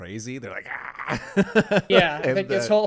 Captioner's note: laughing